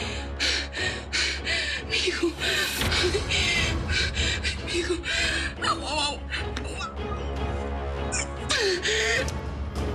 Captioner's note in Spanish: sollozos